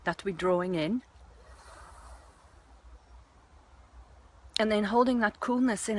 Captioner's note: slow inhalation